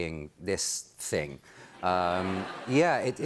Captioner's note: laughter